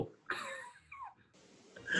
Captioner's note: sniggering